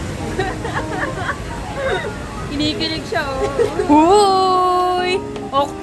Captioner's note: laughs